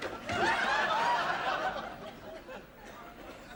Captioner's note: laughter